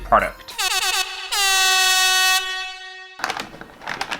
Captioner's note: air Horn